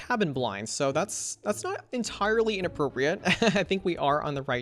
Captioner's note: laughs